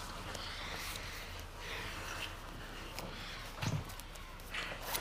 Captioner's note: both breathing heavily